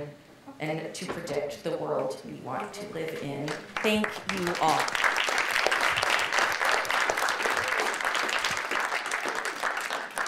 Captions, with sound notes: and to predict the world we want to live in. (audience applauding) Thank you, all.